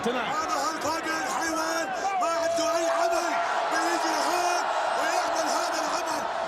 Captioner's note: Adnan speaks foreign language